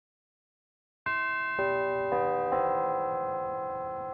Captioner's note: bells chiming